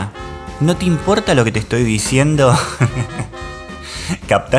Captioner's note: laughs